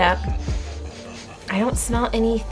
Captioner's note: sniffs air